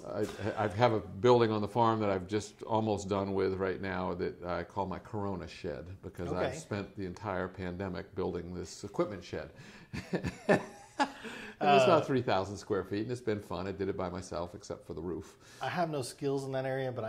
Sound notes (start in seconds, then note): 9.9 laughs